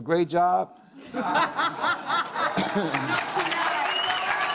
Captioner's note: audience cheers and claps